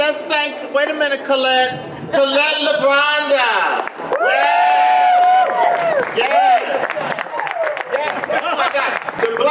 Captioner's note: audience applause